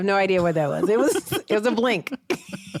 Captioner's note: laughs